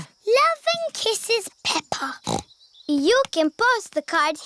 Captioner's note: snorts